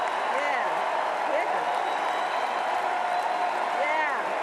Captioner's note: cheers and Applause